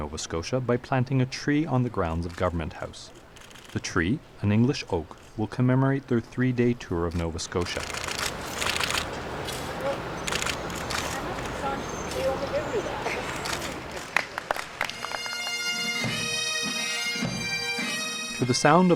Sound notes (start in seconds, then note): 7.6 camera shutter sounds; 14.1 clapping and music